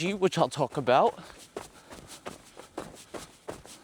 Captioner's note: footsteps